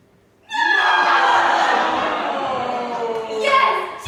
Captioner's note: groans